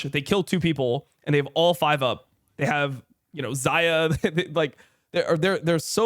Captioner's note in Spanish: risas